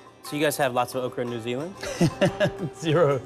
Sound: laughing

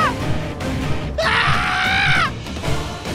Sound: shouting

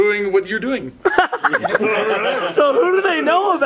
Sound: laughter

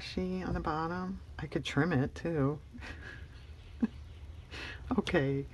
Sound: laughs

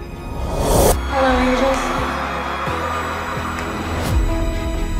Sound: audience cheering

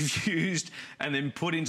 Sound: laughter

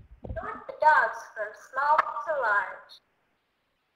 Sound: voiceover

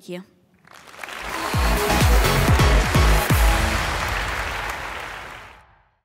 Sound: audience applauding; upbeat music

